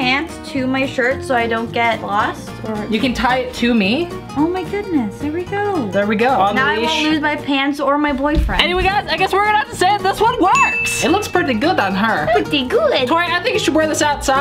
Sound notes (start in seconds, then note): 10.5 bell rings